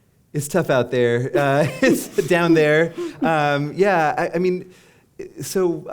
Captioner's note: chuckle